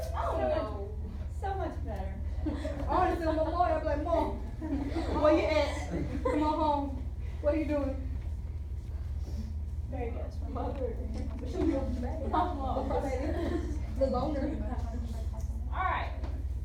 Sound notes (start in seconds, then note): 3.8 students chatter